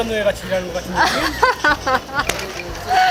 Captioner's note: laughing too hard to breathe